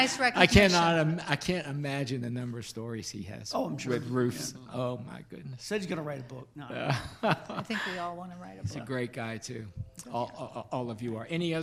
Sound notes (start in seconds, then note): 6.7 laughs